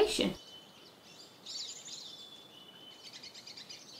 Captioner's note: birds tweeting